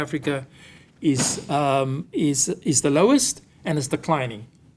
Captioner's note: object thudding